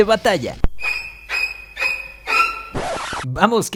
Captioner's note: horror movie sound